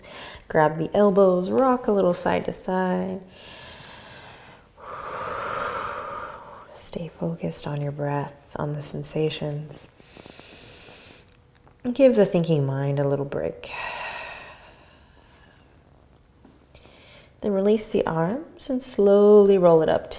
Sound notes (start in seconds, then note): 3.3 breathing; 10.0 inhaling; 13.7 exhaling